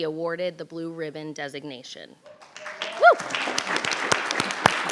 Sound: applause

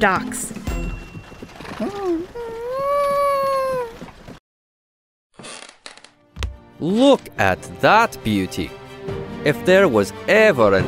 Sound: wagon stops, wood creaks

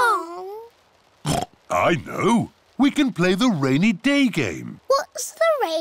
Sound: oinks

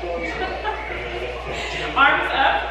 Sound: laughs

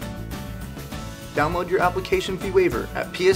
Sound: voiceover

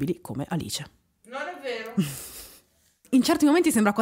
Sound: laughing

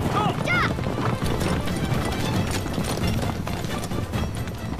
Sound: horse galloping

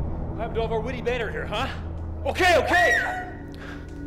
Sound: she screams

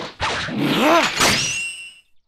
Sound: TRUNKS shouts

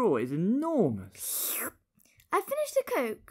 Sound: slurp

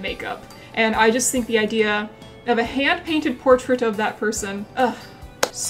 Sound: sighs dreamily

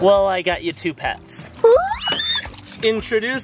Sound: screaming

